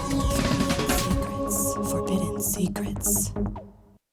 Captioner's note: lady whispering "secrets"; lady whispering "Forbidden Secrets"